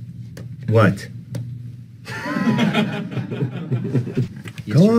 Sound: laughter

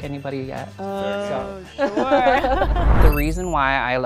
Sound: laughing

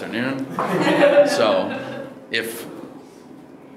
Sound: audience laughing

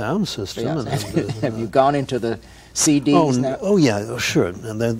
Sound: laughs

